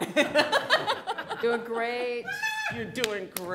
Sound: laughing

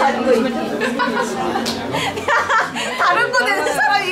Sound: laughing

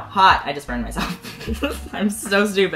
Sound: giggles

